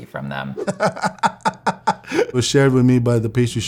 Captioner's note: laughing